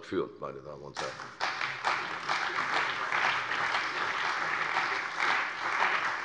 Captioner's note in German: Beifall bei der CDU und dem BÜNDNIS 90/DIE GRÜNEN